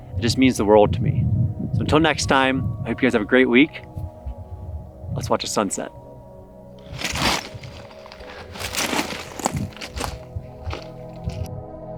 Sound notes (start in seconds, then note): 6.2 gravel crunching